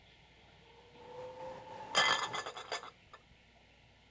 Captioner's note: wind blows, plates clatter